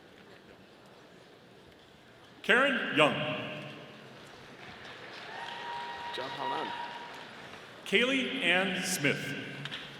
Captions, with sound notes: Karen Yang. (audience applauding) Kailey Ann Smith.